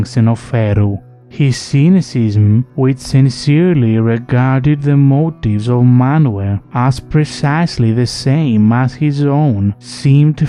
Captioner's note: sincerely